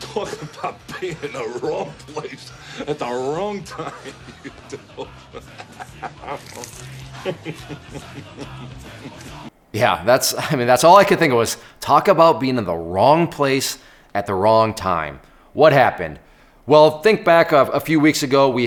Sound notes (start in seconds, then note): 4.4 laughs